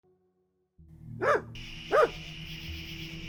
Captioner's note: dog barking